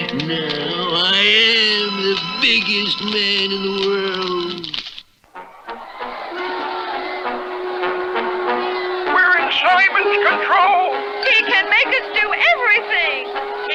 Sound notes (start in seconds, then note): 5.3 crowd Roars